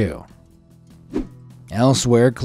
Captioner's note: screen whooshing